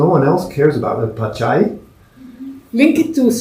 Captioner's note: spanish